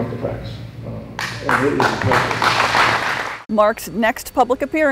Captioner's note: audience applause